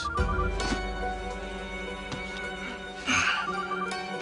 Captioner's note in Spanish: Suena el celular